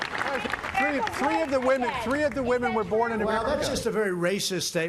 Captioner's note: applause